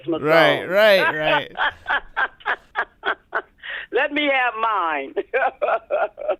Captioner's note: laughter